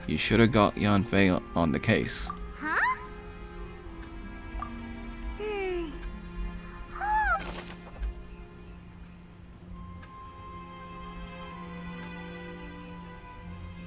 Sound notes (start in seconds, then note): 6.5 gasping